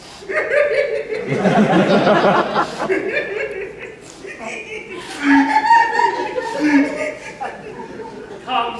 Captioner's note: weeps loudly; laughter, weeping intensifies; more laughter